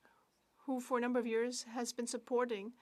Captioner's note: speaking French